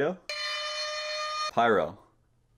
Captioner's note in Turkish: fırtına alarmı